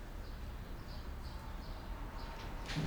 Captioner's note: birds chirping